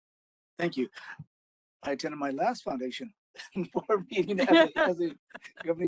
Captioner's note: laughing